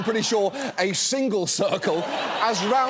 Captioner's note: audience laughs